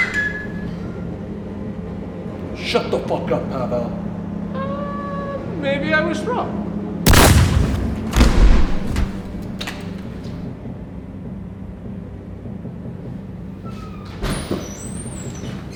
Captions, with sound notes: [Bert whistles] - Shut the fuck up, Pavel! - Oh, maybe I was wrong. [gun bangs] [body thuds] [suspenseful music]